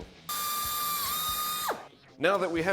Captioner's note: drill